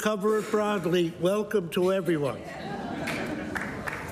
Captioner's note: applause